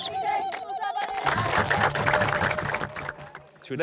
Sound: applause

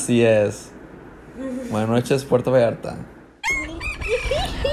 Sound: laughs

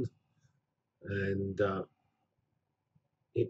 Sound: pause

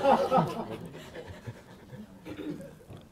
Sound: laughter

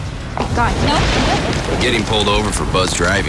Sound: thunder

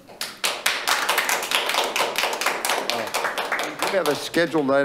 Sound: members clapping

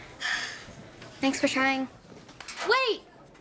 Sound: sighs

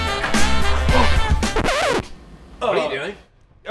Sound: record skips

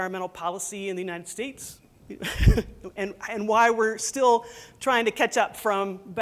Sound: laughs

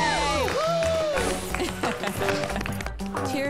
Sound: applause

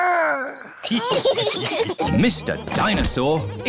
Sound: giggles; laughter

